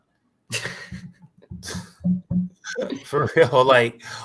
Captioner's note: laughter